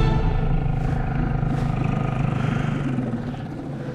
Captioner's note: fast paced string music; engine roaring